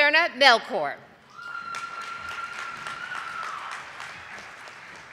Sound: audience applauding

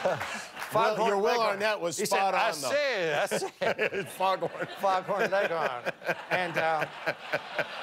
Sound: laughter

